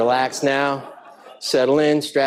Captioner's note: audience laughing